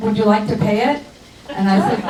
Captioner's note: crowd laughs